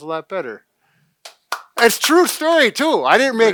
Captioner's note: clapping